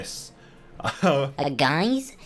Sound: laughs

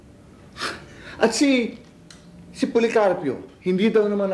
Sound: scoffs

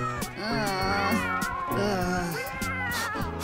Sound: groaning; cats meow; quick breaths

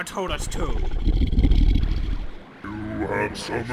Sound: growling

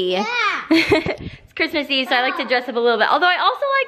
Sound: laughs

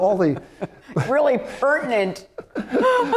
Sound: laughter; laughter

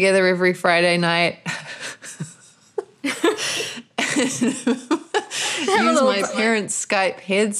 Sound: laughter

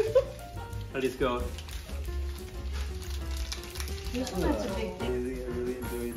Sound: chew chew

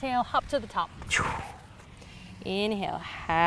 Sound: exhales forcefully

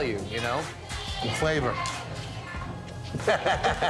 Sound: laughs

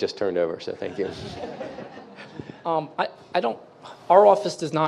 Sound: audience members laughing

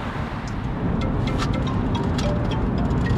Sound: phone ringing

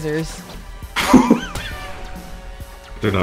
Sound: laughs Nervously

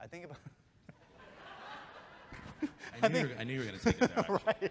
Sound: chuckles

